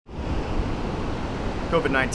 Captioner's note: waves crashing